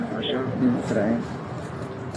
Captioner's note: speaking in a foreign language